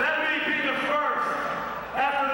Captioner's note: crowd chatter